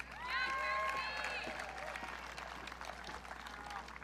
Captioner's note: audience cheering